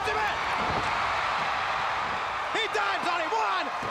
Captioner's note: crowd cheering